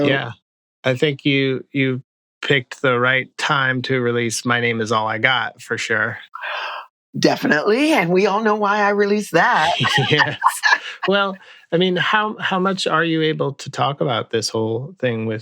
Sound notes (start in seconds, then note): 9.6 laughter